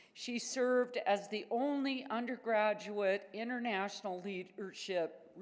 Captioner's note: none